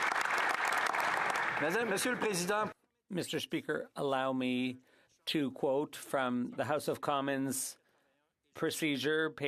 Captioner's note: applause